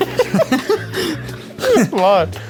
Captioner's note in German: lachen